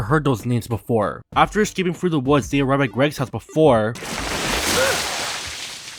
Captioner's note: splash